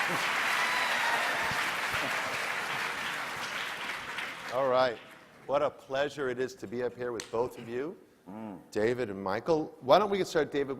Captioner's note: applause